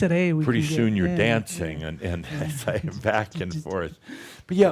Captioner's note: chuckles